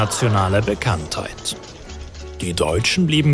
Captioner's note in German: Stimmengewirr